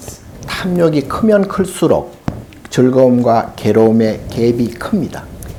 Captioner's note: speaking Korean